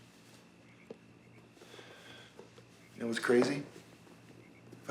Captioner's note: sighs